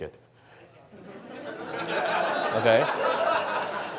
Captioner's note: audience laughs